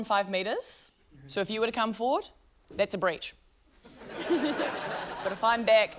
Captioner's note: laughter